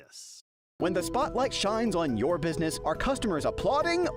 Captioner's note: voiceover